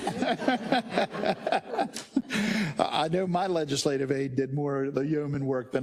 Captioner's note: laugh